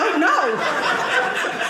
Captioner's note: audience laughing